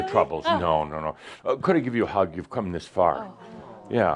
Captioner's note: audience says “Awww”